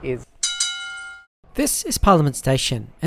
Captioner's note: bell clangs